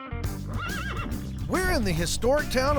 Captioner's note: horse neighs